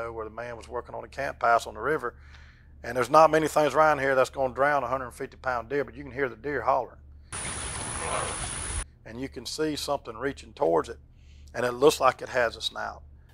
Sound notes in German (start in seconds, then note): 7.4 Hirsch brüllt